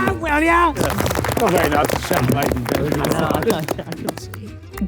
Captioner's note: group cheers